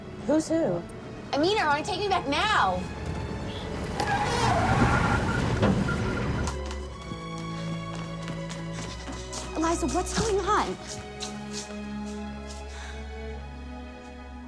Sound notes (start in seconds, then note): 4.0 tires squeal; 11.1 gentle moving music